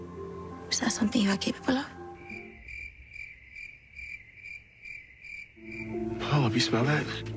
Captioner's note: crickets chirping